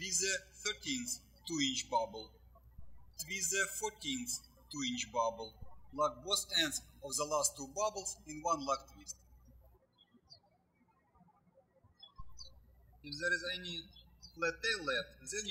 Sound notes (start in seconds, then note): 10.2 birds chirping